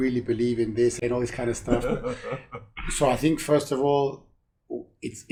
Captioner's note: laughs